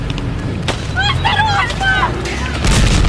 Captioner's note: yelling in Russian